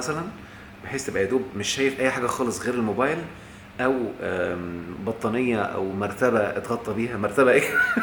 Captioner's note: laughs!